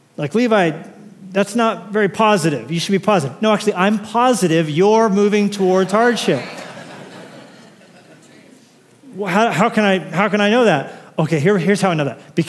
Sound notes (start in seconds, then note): 5.8 laughter